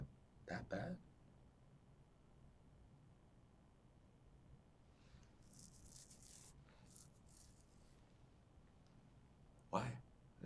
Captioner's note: pauses 8 seconds